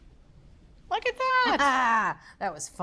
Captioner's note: laughs